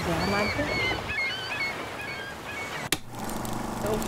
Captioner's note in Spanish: gaviotas y olas